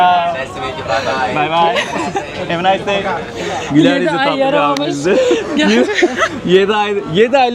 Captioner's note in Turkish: kahkaha; kahkaha